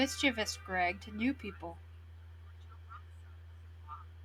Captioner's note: sims speaking simlish continues